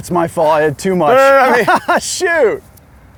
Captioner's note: laughs